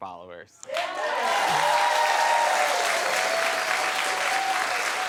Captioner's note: audience clapping